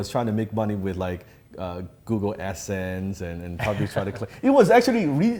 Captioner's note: laughs